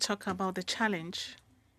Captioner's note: speaking French